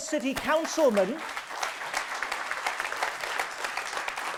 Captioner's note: audience applause